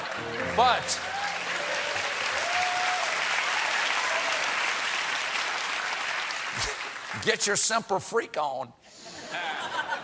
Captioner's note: cheers and applause